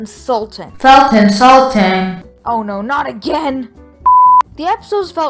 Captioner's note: repeat in robot voice